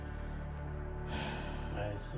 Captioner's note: sheriff sighs